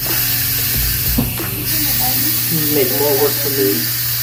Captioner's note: machine whistling